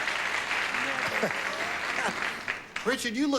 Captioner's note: laughs